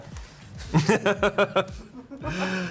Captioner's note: laughing; crew member laughing